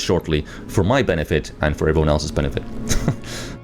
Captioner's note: laughs